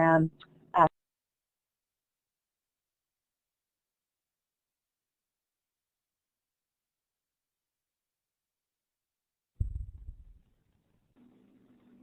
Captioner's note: audio delay